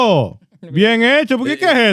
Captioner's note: speaking In Foreign Language